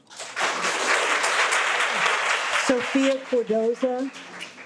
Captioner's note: audience clapping